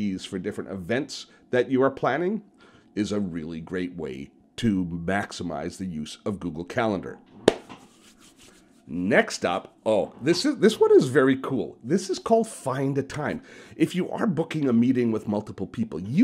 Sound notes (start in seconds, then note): 7.4 claps; 7.5 hands rubbing together